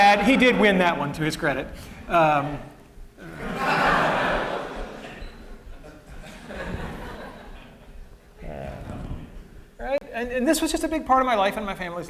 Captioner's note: laughter; laughter